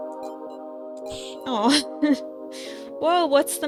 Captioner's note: laugh